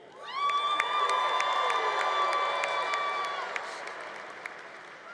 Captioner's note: congregation applauding